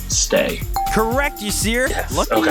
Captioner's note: bell ringing